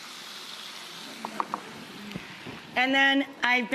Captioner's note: audience oohing